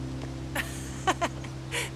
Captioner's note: laughing